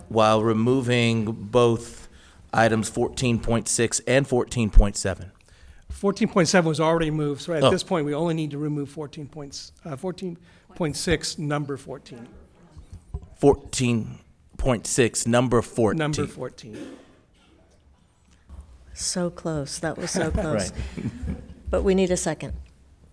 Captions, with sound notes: while removing both items 14.6 and 14.7. - 14.7 was already moved. So at this point, we only need to remove 14.6 number 14. - 14.6 number 14. - Number 14. - So close, that was so close. - Right. (laughs) - But we need a second.